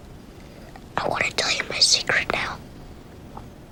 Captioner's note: whispering